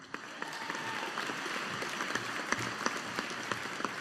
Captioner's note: audience applauding